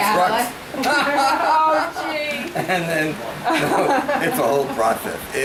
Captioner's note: laughs